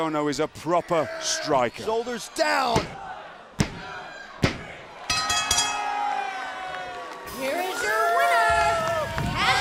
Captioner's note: bell ringing